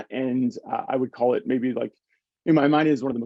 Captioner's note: none